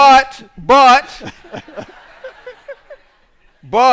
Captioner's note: laughter